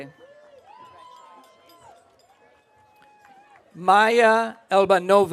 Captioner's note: audience cheering